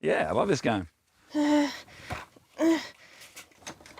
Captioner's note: groans